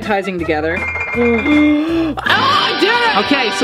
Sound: rattling

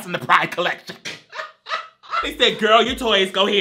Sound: laughs

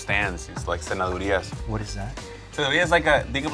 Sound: speaking foreign language

